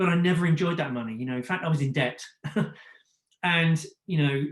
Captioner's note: chuckles